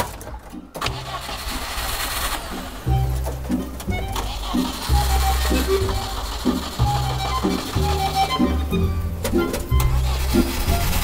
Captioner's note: engine failing to start